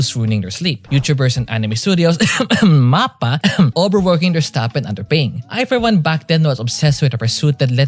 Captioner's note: cough